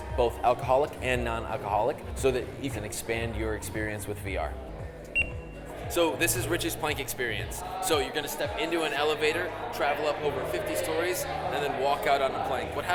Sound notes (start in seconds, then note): 5.2 machine beeps